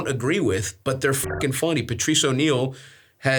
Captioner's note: beeps